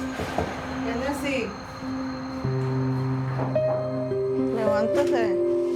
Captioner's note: knocking on door